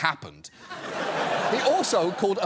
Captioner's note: studio audience laughs